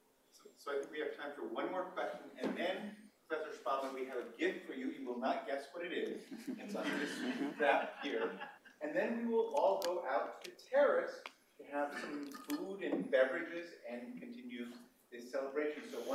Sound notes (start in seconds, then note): 6.2 laughter